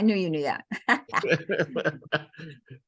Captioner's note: laughter